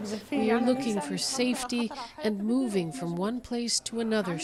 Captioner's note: speaking alternate language